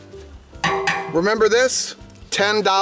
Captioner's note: metal clanging